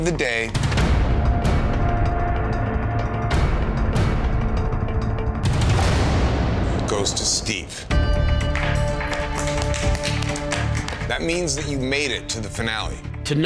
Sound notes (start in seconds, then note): 1.1 suspenseful music; 8.3 contestants clapping; 8.5 dramatic music